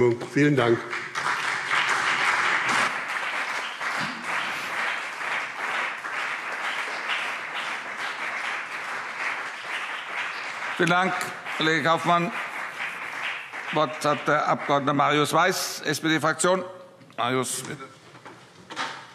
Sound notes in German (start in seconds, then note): 1.7 Beifall BÜNDNIS 90/DIE GRÜNEN und CDU